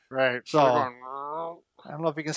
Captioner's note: groaning